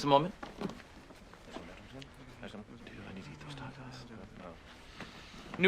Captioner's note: TROY and ABED mumble